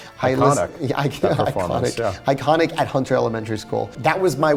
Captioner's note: laughs